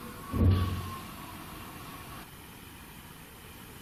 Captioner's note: thumping